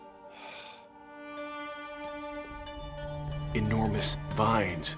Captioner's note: sighs